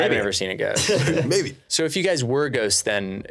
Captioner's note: laughing